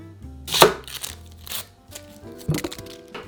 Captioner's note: knife cutting